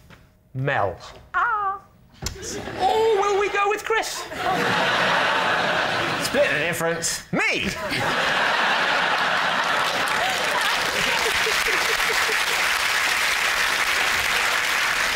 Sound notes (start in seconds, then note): 4.2 laughter; 7.8 laughter and applause